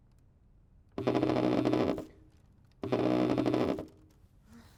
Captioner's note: cellphone vibrating